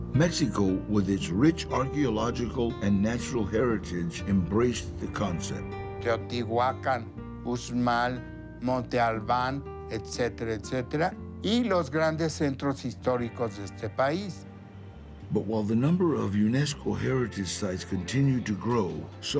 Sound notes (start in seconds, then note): 0.1 in English; 5.9 man 5 in Spanish; 15.3 in English